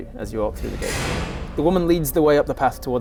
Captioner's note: clunk